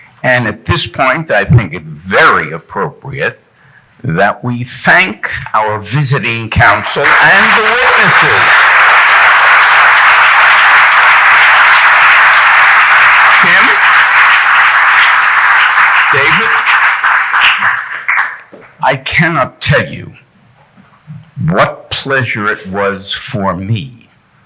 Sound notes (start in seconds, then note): 7.0 audience applauding